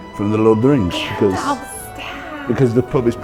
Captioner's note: gasps